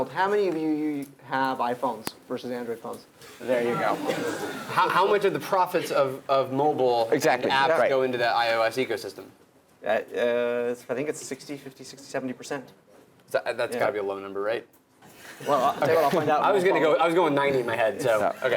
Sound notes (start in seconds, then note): 3.8 laugh